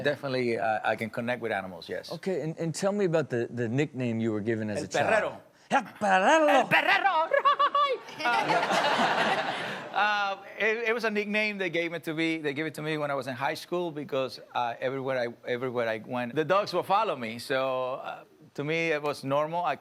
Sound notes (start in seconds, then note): 7.4 audience laughs